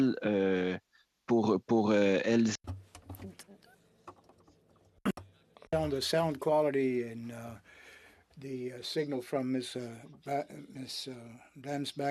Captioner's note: speaking French